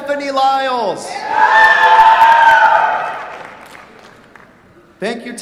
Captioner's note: cheers, applause